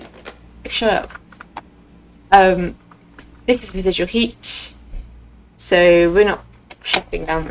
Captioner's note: slams down phone